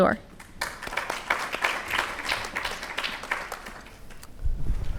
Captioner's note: audience clapping